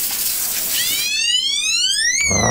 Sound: siren

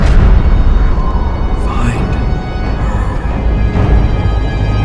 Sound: whispering

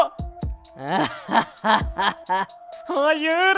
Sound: laughter

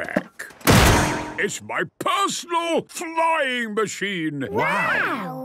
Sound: clangs

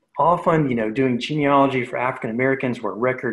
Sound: murmurs

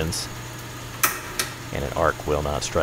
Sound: switch clicks

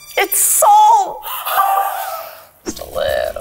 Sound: laughing

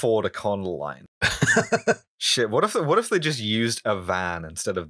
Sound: laughter

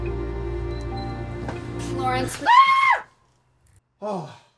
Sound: scream

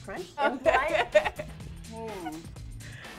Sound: laughs

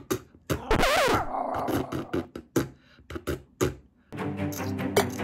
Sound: record scratches; upbeat music

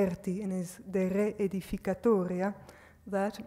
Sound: speaks foreign language

